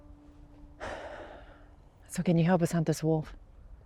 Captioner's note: sighs